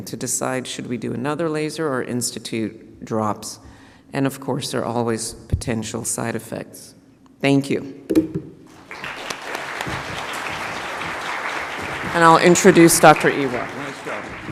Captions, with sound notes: to decide should we do another laser or institute drops. And of course there are always potential side effects. Thank you. (audience applauds) And I'll introduce Dr. Iwach. - Nice job.